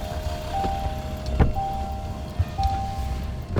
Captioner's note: light dramatic music; car beeping